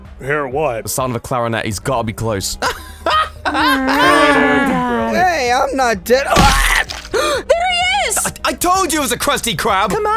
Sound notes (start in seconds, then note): 2.6 laughing; 7.0 gasp